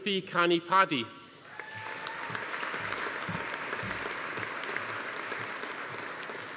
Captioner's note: audience applauding; attendee cheering